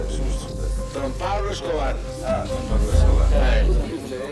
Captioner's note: Spanish spoken audio